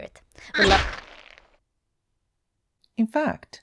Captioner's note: squish